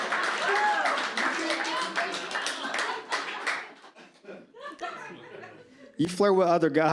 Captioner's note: audience claps and cheers